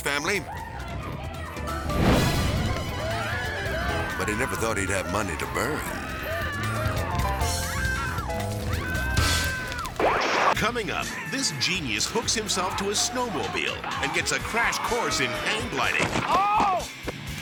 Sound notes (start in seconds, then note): 1.7 flames whipping; 2.6 dramatic beat; 3.2 whimsical music; 3.7 man screaming; 6.2 people screaming continues; 6.2 whimsical music continues; 9.8 transition whooping